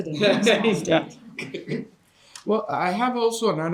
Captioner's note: participants laughing